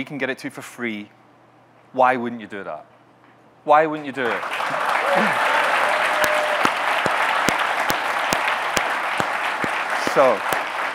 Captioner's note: audience clapping, cheering